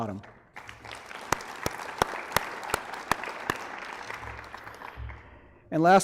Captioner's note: applause